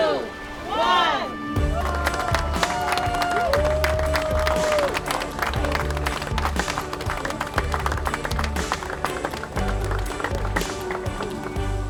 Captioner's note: applause